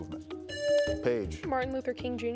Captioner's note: buzzer buzzing